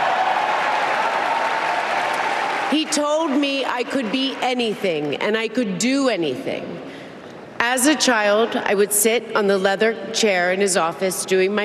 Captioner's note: applause